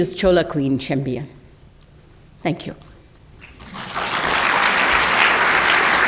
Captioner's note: applause